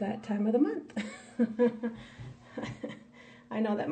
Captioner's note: laughs